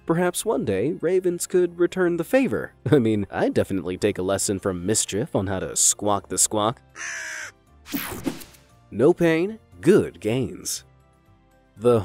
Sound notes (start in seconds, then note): 6.9 crow caws; 7.9 logo snaps